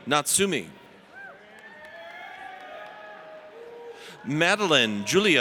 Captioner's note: audience cheers